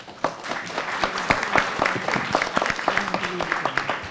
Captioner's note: crowd applauds